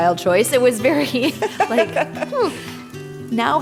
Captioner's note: chuckles; scoffs